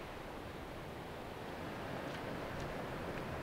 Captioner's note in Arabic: ضوضاء الرياح والمحيطات